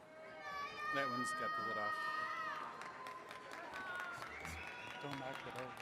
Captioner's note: attendees chattering